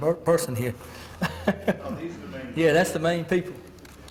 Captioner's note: laugh